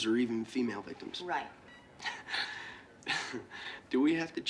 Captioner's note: laughing